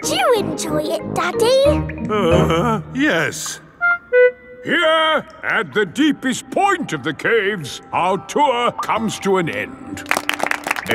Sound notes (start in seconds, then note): 2.0 groans